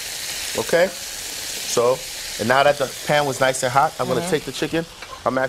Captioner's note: chuckles